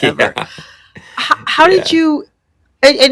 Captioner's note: laughter